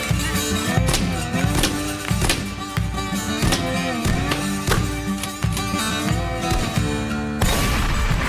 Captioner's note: gunfire and running; shotgun blast